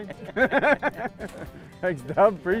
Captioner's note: laughter